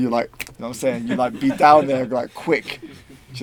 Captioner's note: snaps